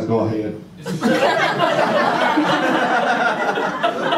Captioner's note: audience laughter